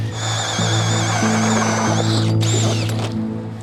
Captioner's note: auger drilling